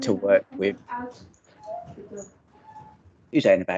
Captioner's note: baby wailing in background